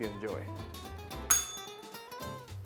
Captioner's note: bell rings